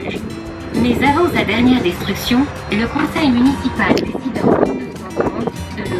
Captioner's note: french announcer speaking